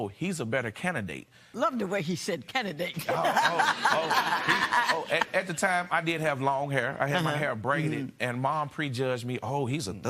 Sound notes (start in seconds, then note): 3.0 laughter